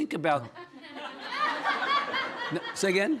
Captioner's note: audience laughing